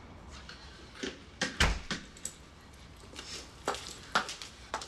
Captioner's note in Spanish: Sonido al cerrar la puerta